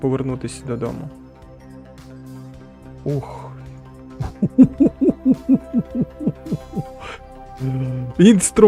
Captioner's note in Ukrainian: сміх